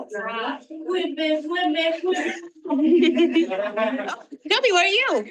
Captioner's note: participant imitates the frog ribbiting